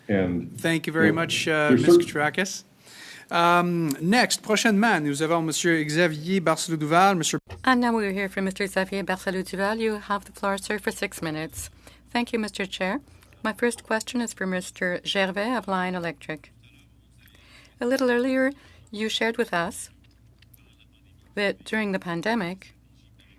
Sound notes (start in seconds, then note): 11.0 speaking French